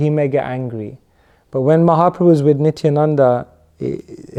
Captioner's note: chuckles